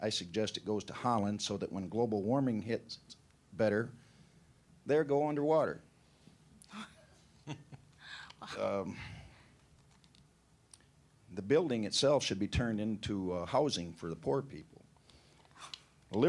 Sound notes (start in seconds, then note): 7.4 laughing